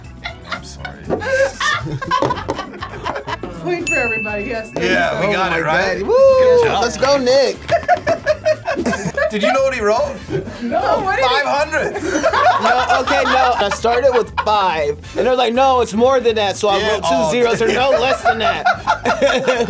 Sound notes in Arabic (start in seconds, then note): 0.2 الجميع يضحكون; 7.7 تضحك; 11.8 الجميع يضحكون